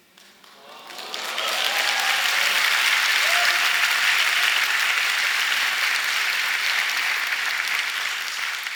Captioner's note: applause and cheering